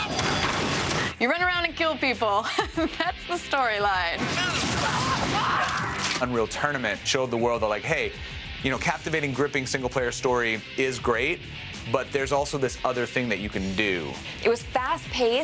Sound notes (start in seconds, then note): 0.0 gunshot; 0.1 screaming; 4.2 gunfire